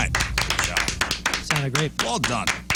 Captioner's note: applause